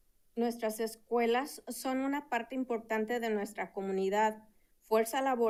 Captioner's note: speaking in Spanish